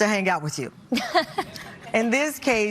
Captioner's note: laughs